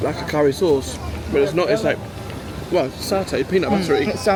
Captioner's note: none